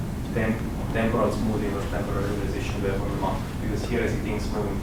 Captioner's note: man speaks with heavy accent